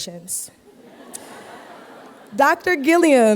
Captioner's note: laughter